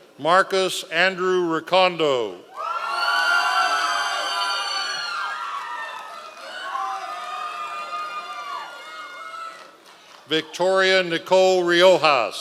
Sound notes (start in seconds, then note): 2.5 members of the audience cheering